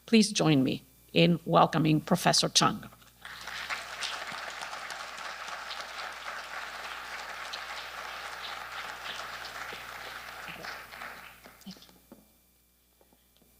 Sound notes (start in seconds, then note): 3.2 audience clapping